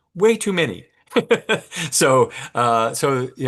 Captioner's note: laughs